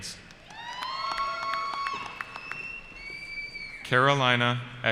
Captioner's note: cheering